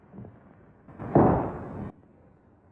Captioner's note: gavel